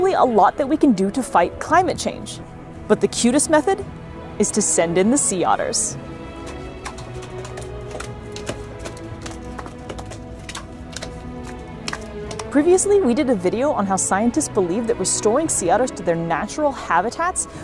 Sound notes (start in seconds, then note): 6.0 noise of flippers slapping on ground; 6.2 background music